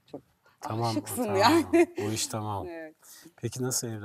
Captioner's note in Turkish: kahkaha